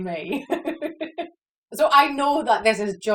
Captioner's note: laughs